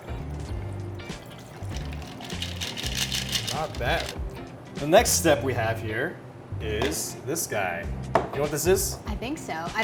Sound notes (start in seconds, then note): 1.0 liquid ripples; 1.2 ice rattles